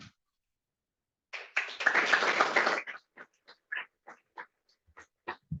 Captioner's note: applause